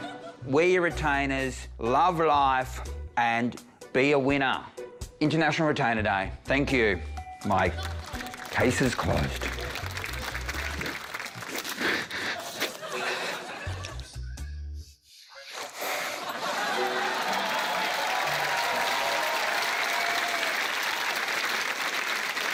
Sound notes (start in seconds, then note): 7.6 applause; 11.5 breathes heavily; 14.4 laughter; 16.2 cheering, applause